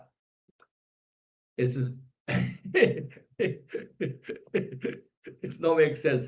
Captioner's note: laughs